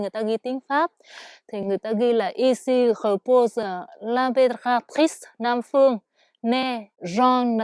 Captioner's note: French